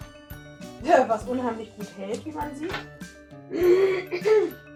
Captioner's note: laughing